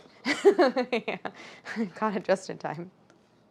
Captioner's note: laughing